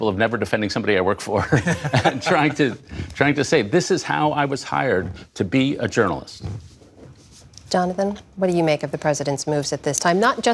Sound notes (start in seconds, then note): 1.4 laughter